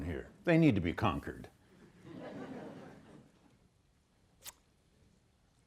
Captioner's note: students laughing